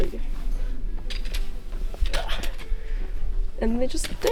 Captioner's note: struggling noises